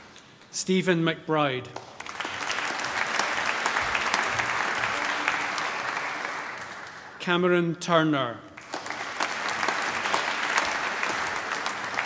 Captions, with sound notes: Stephen McBride. (APPLAUSE) Cameron Turner. (APPLAUSE)